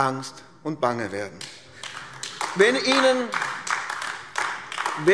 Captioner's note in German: Beifall AfD